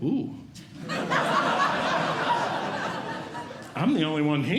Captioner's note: audience Laughing